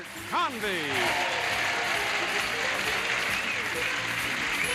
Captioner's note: audience cheers